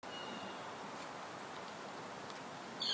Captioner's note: birds calling